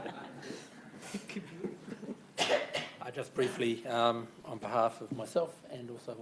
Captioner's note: laughter